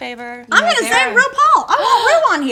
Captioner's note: gasping